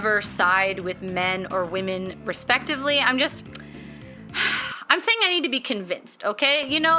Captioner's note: sigh